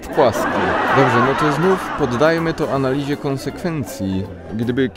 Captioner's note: audience laughter